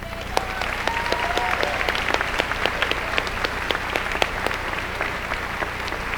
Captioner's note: applause